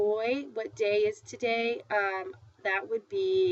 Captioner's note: foreign language